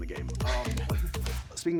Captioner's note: laughing